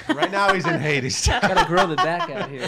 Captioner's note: laughing